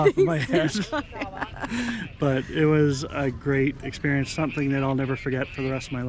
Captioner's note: laughs